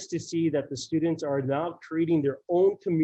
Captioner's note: none